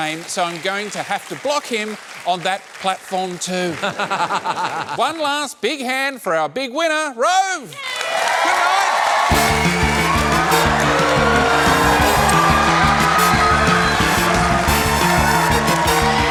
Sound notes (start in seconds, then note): 3.7 laughs; 7.8 cheering, applause